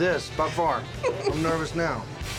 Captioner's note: laughter